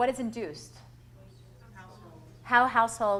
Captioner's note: voiceover